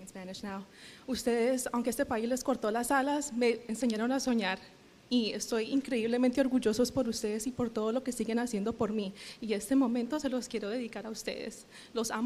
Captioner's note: speaking spanish